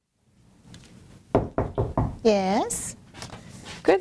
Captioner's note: knocking